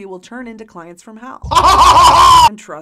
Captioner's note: harsh evil laughter